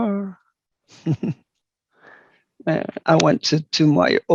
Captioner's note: laughs